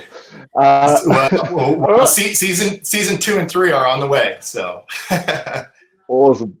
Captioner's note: laughs